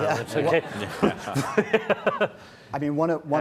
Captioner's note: laughing